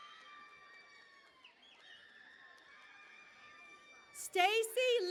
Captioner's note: cheering and Applause